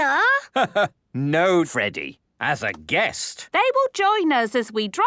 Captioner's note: laugh